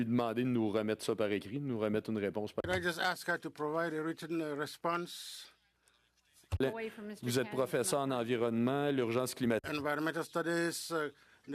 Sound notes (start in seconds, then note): 4.8 speaking French